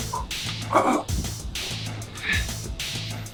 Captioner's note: groaning